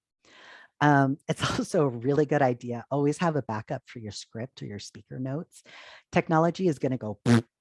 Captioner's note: raspberry noise